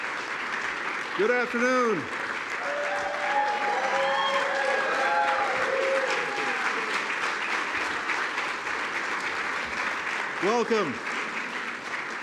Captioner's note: applause